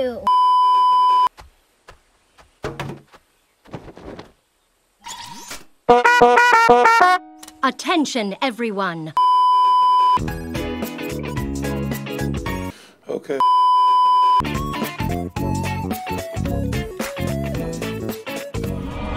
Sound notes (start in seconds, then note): 0.2 beeeeeep; 12.6 panicked inhale